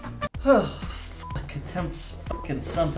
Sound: groan/sigh

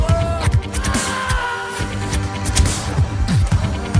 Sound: henchman screams

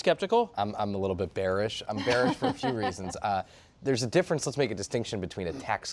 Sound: laughter

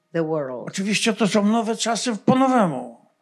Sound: foreign language

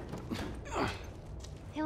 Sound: Joel grunts

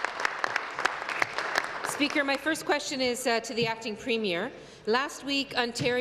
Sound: applause

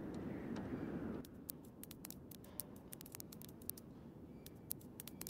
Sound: bug crawling

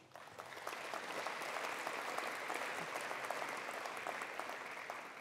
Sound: attendees applauding

